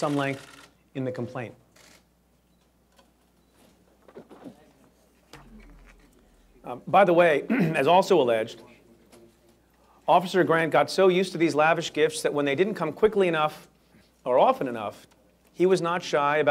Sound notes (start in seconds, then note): 4.2 random chatter; 7.4 clears throat